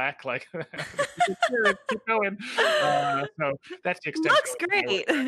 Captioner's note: laughing